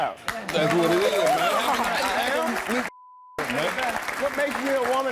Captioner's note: clapping and cheering